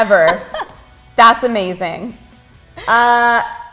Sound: super gay laugh

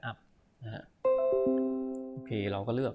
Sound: chime from the computer

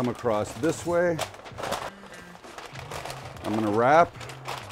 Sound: wrapping crinkles

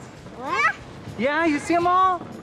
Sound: speaking gibberish

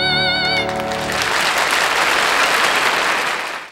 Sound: audience applauding

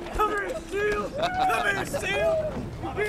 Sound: laughter

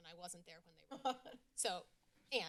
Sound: laughter in background

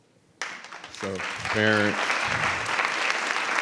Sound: everyone applauding

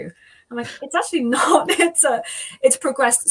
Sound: chuckles

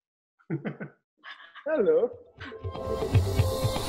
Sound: laughs; bright music

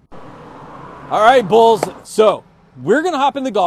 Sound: claps hands together

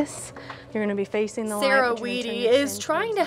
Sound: faintly speaking

